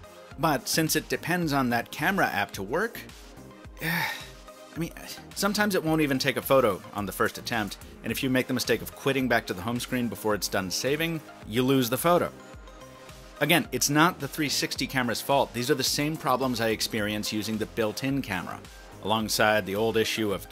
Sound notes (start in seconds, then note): 3.8 sighs